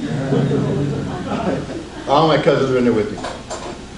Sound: audience laughs

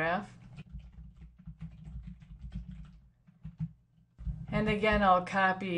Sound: typing

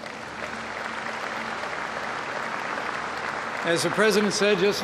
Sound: applause

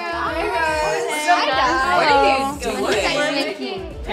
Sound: group chattering

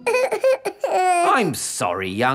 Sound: whimpers

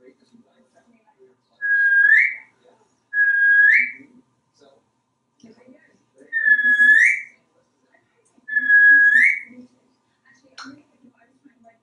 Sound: whistling

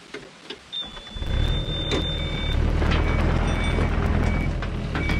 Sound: excavator grading

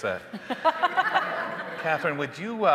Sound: hosts laughing; audience laughing

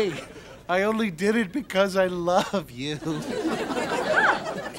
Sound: sobbing

